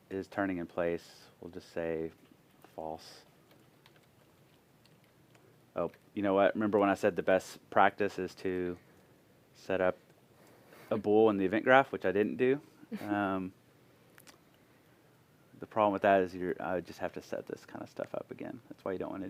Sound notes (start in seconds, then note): 13.0 laughter